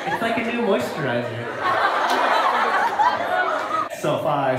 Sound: crowd laughs

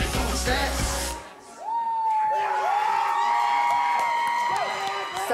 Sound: cheers and applause

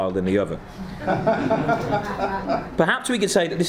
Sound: laughing

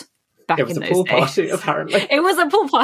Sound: laughing

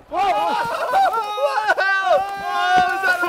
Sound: laughter

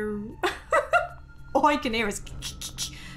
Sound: laughing

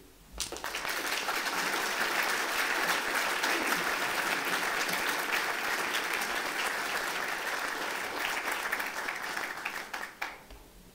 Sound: applause

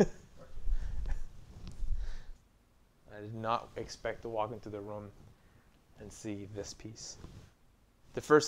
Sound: laughing

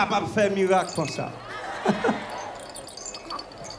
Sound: shaking rattle; laughter

